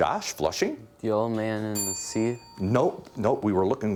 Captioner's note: bell dinging